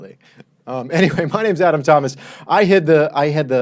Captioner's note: laughs